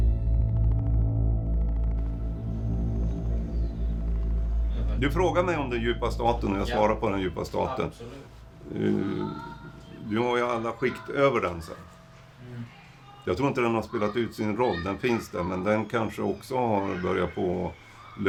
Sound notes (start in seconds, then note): 1.9 birds chirping; 9.1 children shouting from the yard below